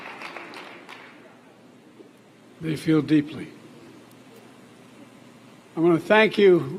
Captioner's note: applause